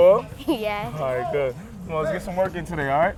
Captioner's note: laughs